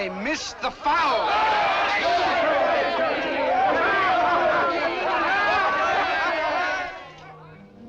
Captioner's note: general acclamation